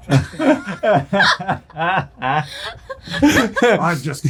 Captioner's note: all laughing